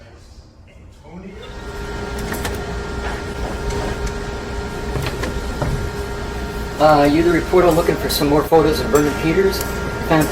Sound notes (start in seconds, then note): 1.6 machine whirring